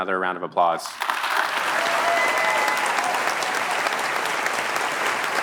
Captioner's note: applause and cheering